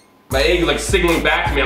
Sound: tiny squeak

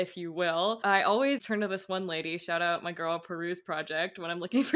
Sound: laughing

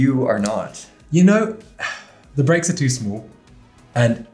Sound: sighs

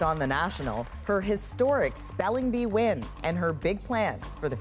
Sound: cheers and applause

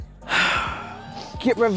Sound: sighs

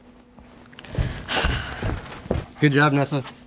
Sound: sighs

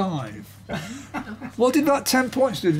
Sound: laughter

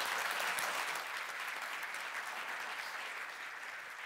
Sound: applause

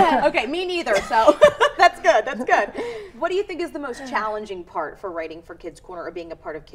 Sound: laughter

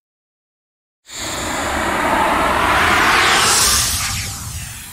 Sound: air whooshing

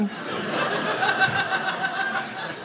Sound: audience laughing

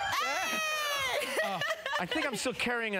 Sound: laughing

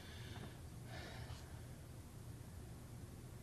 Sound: sighs

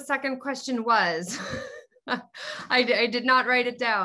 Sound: laughing

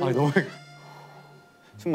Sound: controlling his breathing

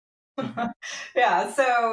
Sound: laughing

